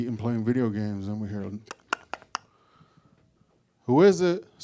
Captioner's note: knock knock knock